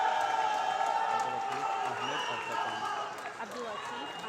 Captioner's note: loud cheering